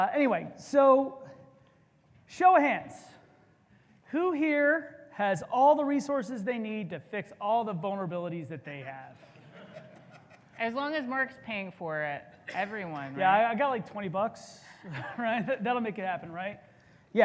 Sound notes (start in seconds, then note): 9.3 audience chuckles